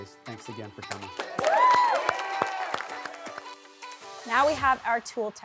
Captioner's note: clapping